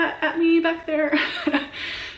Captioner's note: laughs